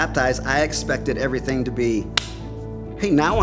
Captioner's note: hands slapping